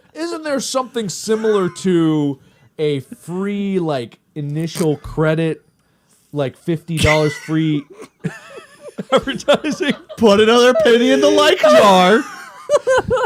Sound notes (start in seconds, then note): 3.6 snicker; 7.8 full on laugh; 7.9 laughter